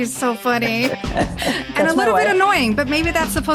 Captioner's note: laughs